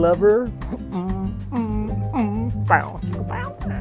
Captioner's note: humming